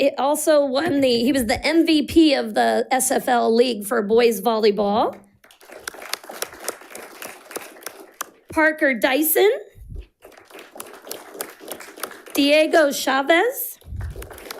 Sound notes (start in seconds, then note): 5.4 audience applauding; 10.0 audience applauding